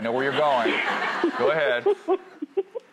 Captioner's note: laughing